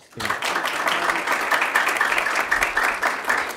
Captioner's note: clapping